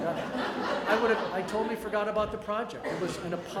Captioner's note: audience laughter